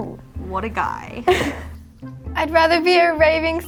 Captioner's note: laughs